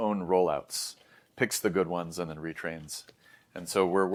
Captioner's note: inhales